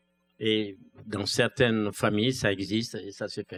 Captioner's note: speaking french